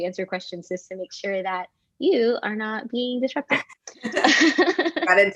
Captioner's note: laughs